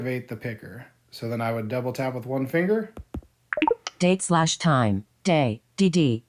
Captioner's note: beep